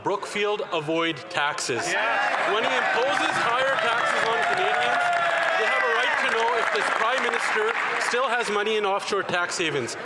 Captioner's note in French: voix de l'interprète